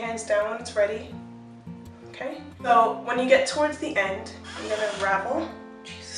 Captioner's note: door Squeaks